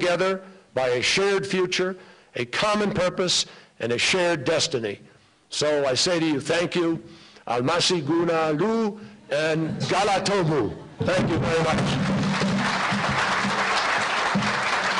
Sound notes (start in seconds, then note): 11.2 applause